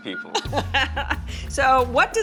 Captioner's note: laughter